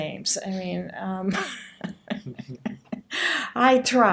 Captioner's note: laughing